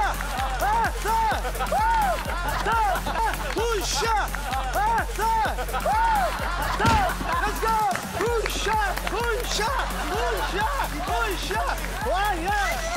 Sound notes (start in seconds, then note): 7.0 Shouting and bumping